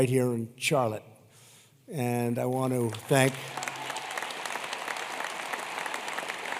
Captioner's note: applause